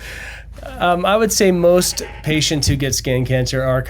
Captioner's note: laughs